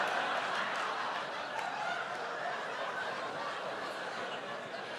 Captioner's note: laughter